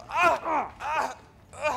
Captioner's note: cries out